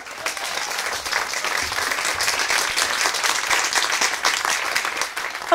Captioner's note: applause